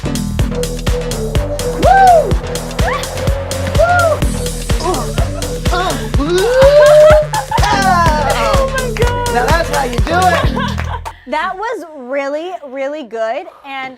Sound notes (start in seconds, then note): 1.7 cheers; 9.3 laughs